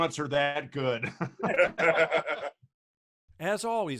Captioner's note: laughing loudly